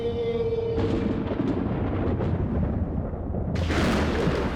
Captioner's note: dramatic music continues; thunder breaking